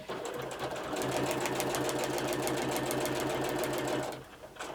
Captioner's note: sewing machine whirring